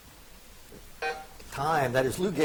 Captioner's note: buzzer beeps